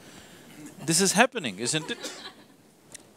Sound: laughter

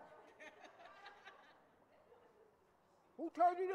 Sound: audience laughing

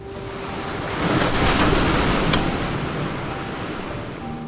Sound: giant Wave Sound

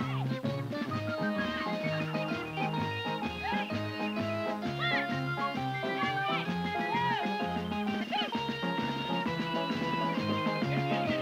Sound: applause and cheering

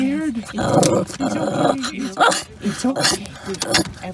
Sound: scared growl

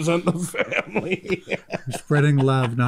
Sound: laughing

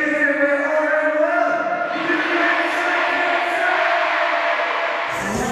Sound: crying out the signature slogan in unison

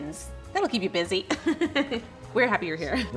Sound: laughs

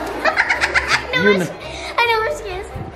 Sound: laughing

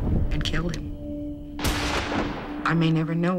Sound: gunshot

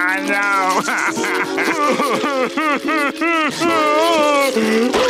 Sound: crying

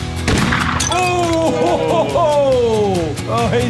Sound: laughing

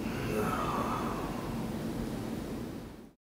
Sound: groan

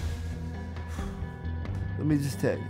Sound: scoffs

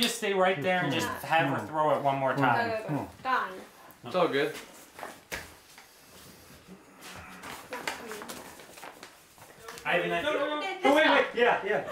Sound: laughter & background chatter

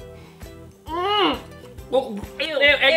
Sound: spitting sound

